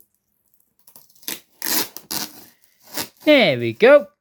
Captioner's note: tape peeling sound